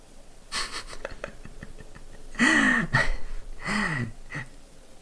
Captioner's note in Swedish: Små skrattar